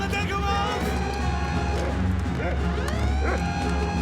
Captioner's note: alarm blaring; dog barking